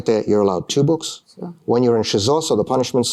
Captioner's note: speaking russian